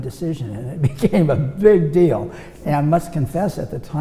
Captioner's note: laughs